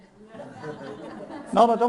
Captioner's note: audience laughs